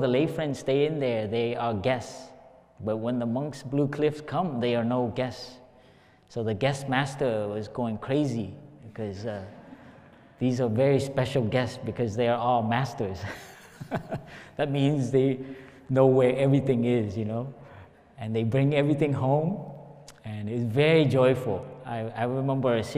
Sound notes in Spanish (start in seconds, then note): 9.4 Risas